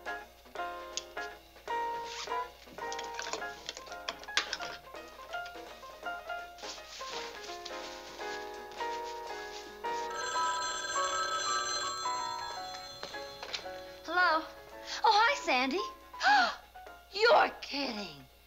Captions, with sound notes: [PHONE RINGING] Hello. Oh, hi, Sandy. [GASPING] You're kidding!